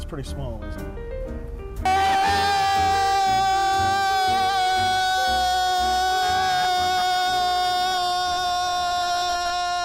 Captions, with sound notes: It's pretty small isn't it? (yelling)